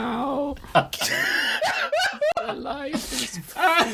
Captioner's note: laughter